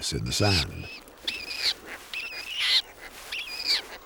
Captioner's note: chick wailing